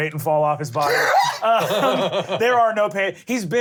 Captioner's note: laughter